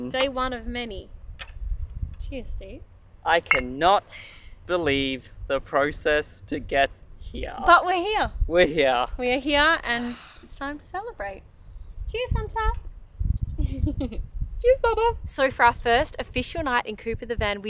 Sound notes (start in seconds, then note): 3.4 bottles clink; 13.5 giggles